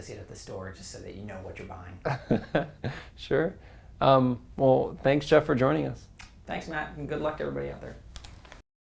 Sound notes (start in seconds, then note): 2.1 laugh